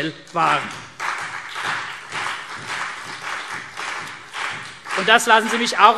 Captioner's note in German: Beifall CDU und BÜNDNIS 90/DIE GRÜNEN